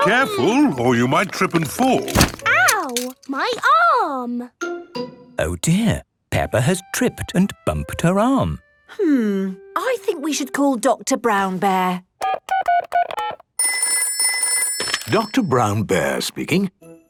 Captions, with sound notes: Careful, or you might trip and fall! - (thumps) - Oww! My arm! - Oh, dear. Peppa has tripped and bumped her arm. - Hmm... I think we should call Doctor Brown Bear. - (dial tones beeping) - (ringing) - Doctor Brown Bear speaking...